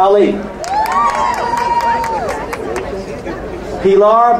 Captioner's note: crowd cheering